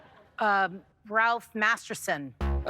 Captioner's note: laughter; bass note